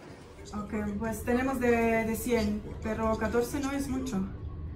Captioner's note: in Spanish